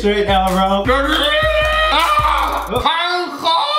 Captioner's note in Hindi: चिल्लाना